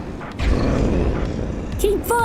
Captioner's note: growl